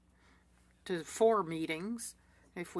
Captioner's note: speaking French